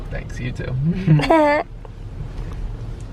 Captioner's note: chuckling